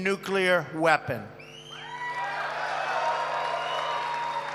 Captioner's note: applause